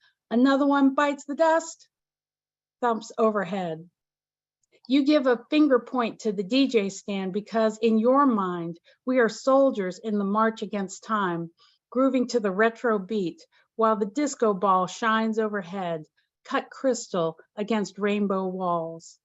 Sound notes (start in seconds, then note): none